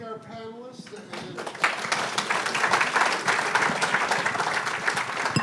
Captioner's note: applause